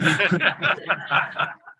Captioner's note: laughter